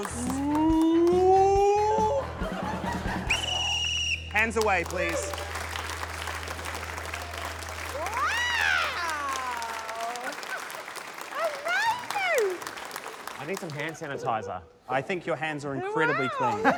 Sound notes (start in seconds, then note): 1.9 laughter; 3.2 whistle trills